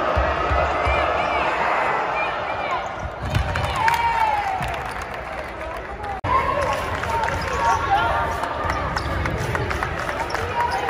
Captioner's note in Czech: Potlesk